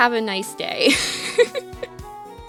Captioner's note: laughs